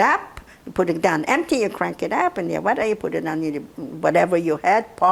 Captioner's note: mumbling